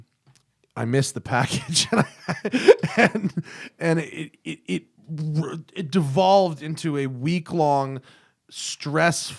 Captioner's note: laughter